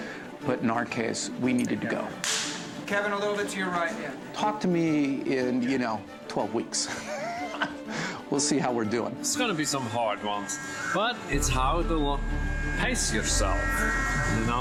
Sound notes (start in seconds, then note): 6.8 chuckles